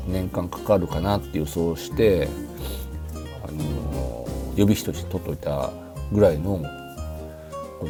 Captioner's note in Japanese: 鼻息